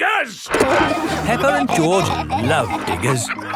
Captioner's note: peppa and george laughing